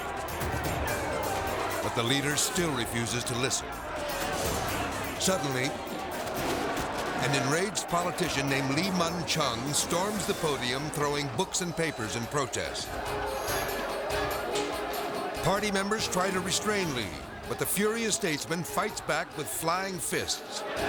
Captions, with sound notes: (politicians chattering) but the leader still refuses to listen. Suddenly, (paper rustling) an enraged politician named Lee Mun Chung storms the podium, throwing books and papers in protest. (politicians chattering) (thrilling music) Party members try to restrain Lee, but the furious statesman fights back with flying fists.